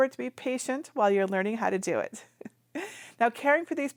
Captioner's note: giggles